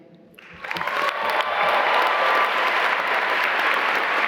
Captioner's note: applause